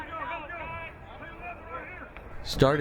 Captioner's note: crowd cheering